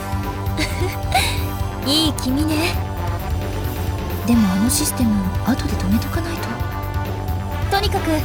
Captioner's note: giggle